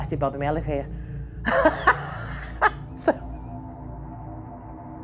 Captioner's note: laughing